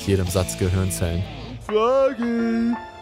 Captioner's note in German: schräge Stimme